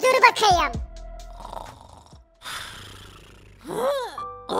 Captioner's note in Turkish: Horlama sesi